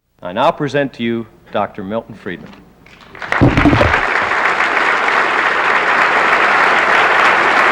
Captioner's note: applause